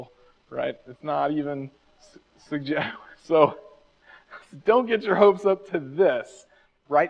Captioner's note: laughs